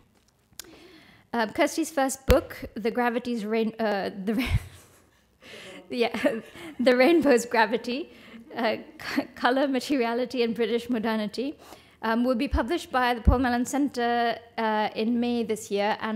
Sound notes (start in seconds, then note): 5.2 laughs